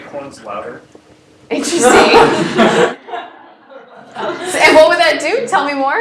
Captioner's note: laugh